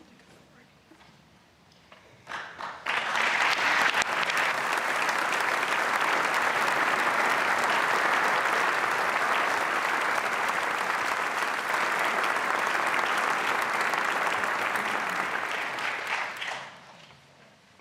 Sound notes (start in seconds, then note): 4.3 speaking French; 5.3 applause